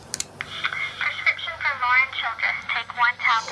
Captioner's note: electronic Voice